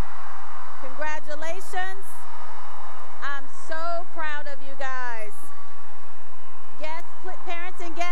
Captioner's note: cheering and applause